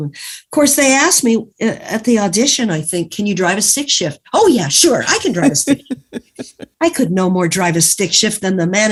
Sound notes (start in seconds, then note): 5.0 laughs